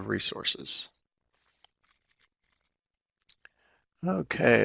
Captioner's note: no sound - waiting for questions in chat